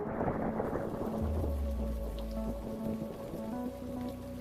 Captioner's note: thunder, rain pouring